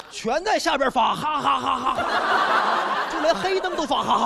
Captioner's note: laughing